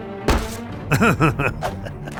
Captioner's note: laughs in more French